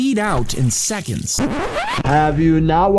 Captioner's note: graphic scratching